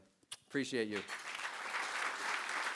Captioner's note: applause